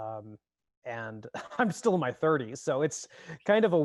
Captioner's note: chuckles